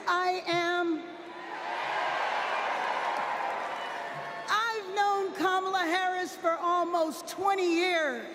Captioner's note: applause